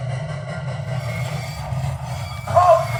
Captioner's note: train brakes screeching